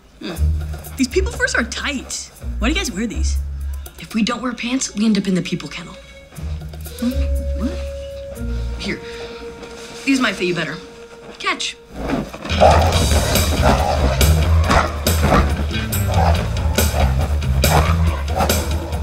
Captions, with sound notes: The people furs are tight. Why do you guys wear these? If we don’t wear pants, We end up in the people kennel. Huh? What? Here, these might fit you better. Catch. [growling]